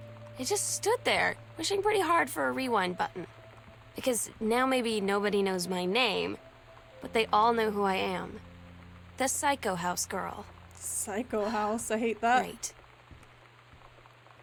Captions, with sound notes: I just stood there wishing pretty hard for a rewind button, because now maybe nobody knows my name, but they all know who I am: the psycho house girl." Psycho House? I hate that. [Sam Sighs] "Great."